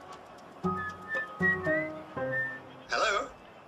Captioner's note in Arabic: صفير إدي